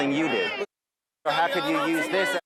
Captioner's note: muted